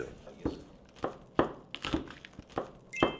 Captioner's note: chop